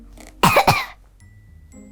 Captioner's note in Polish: kaszel